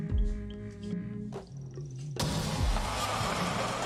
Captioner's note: glass shattering